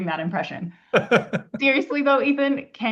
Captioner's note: laughs